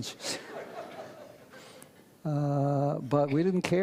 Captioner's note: audience laughs